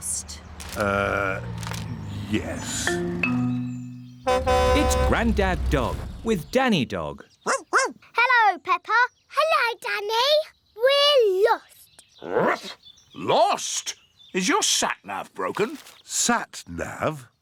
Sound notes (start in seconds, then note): 4.2 horn honks; 7.4 barking; 11.6 barks